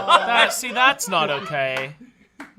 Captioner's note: off-camera laughing